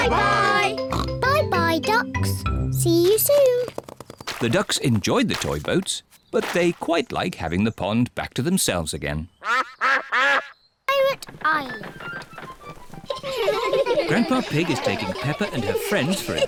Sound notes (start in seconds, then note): 9.4 duck quacks; 11.7 children laughing